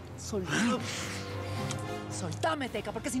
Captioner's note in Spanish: risa sarcástica